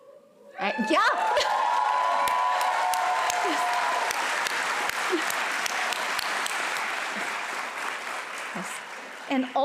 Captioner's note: applause and cheering